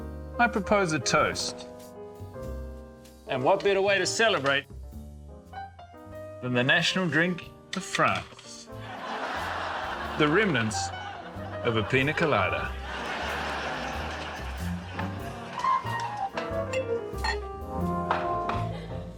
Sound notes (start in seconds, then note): 9.0 laughter; 12.6 romantic jazz music